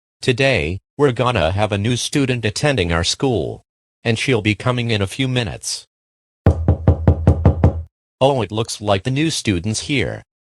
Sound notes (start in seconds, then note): 6.4 knocking